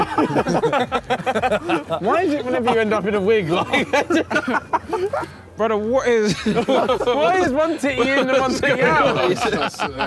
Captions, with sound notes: - Why is it whenever you end up in a wig, like. (laughing) - Brother, what is. - Why is one team in the- (all laughing)